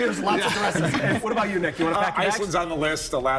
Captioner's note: laughter